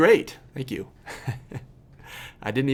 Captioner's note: laughs